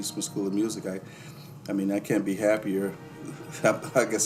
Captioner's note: laughs